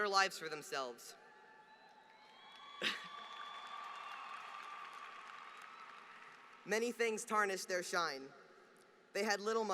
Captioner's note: applause